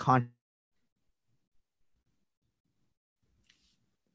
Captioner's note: silence